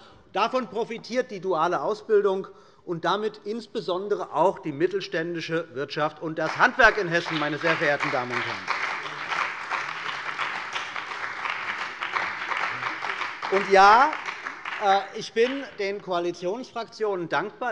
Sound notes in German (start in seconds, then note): 8.0 Beifall bei der CDU und dem BÜNDNIS 90/DIE GRÜNEN